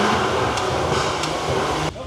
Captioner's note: thud